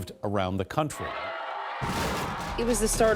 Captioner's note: crowd cheering